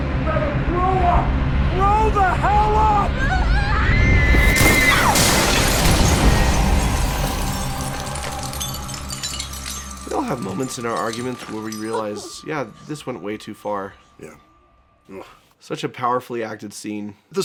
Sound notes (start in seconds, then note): 2.4 glass-shattering scream